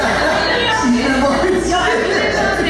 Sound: crowd chattering

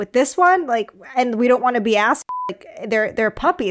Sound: beep

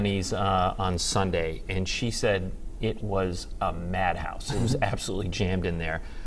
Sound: laughter

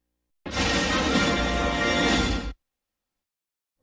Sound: lightning and music continuing

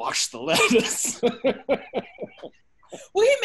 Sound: laughing

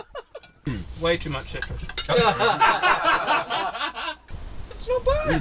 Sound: laughter

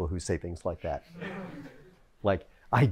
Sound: laughter

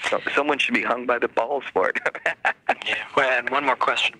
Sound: laughs

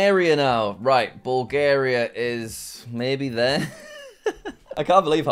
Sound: laughs

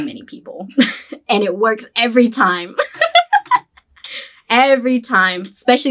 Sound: laughs

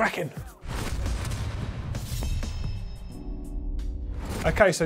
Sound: metal crashes

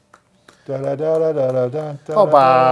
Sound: hands clapping; humming

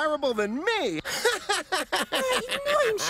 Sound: laughs

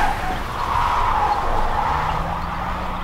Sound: tires squealing

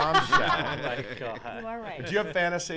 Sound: laughs

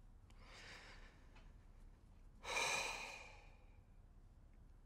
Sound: exhales deeply

